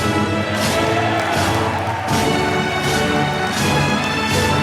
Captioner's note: applause